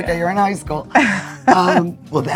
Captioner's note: chuckling